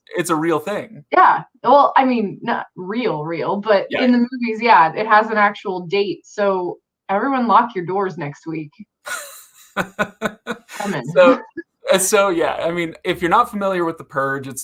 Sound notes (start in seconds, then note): 9.0 laughs